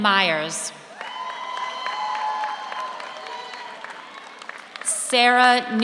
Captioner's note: audience cheers; audience applauds